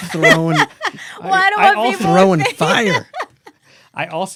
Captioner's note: laughter